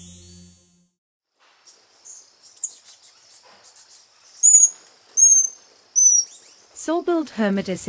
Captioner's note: birds chirping